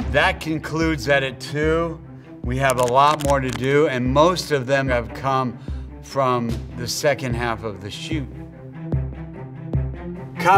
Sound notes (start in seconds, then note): 2.7 counter ticking; 8.1 rousing music